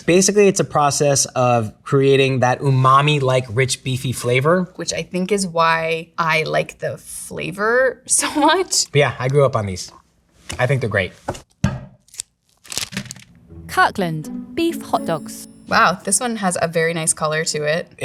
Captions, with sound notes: - Basically it's a process of creating that umami-like rich beefy flavor, - Which I think is why I like the flavor so much. - Yeah, I grew up on these, I think they're great. [package thunks] [plastic rustling] - Kirkland Beef Hotdogs. - Wow, this one has a very nice color to it.